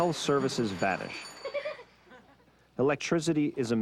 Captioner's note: child giggling